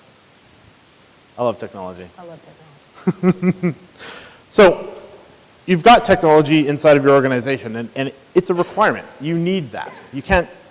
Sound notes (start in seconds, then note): 2.9 laughs